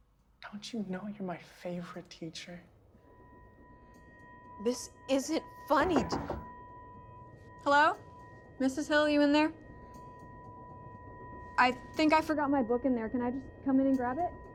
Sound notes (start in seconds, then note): 2.8 brooding music; 5.8 knocking on door